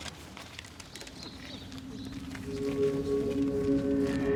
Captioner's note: bird song